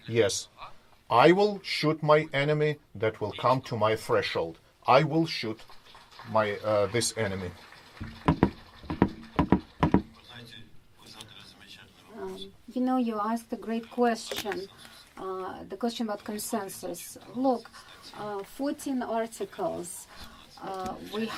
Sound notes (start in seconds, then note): 7.2 crowd clapping